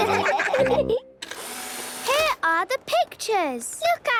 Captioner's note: whirring